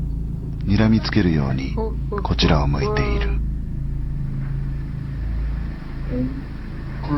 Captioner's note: speaking in foreign language